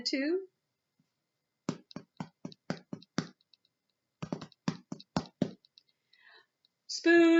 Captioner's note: tap tap tap tap tap tap tap